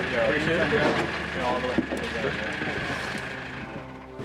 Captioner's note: muffled conversation